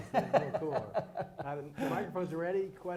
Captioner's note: laughter